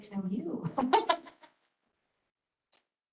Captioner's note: laughs